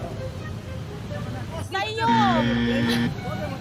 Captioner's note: buzzer blares